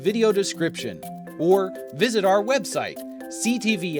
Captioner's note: none